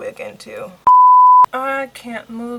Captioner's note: beep